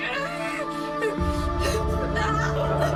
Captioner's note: Maya grunts